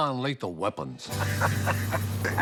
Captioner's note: laughter